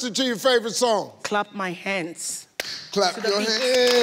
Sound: claps

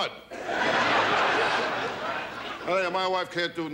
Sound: audience laughs

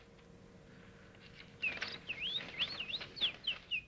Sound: mimics birds chirping

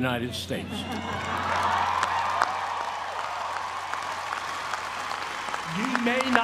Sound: applause

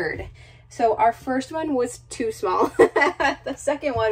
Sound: laughs

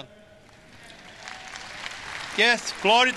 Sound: audience applause

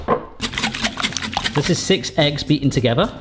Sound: whisk tapping

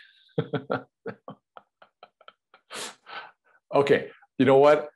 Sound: laughs

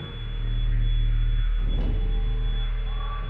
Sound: continuous beep

